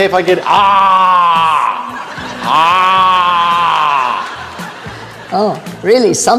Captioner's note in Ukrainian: кричить, як Годзилла